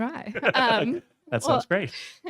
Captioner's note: laughing